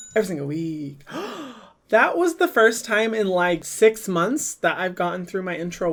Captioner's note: gasps